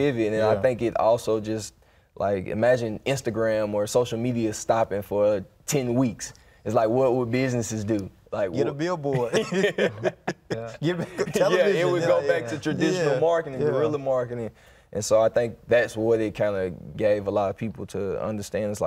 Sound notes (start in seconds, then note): 9.1 all laugh